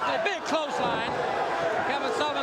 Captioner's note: crowd chatter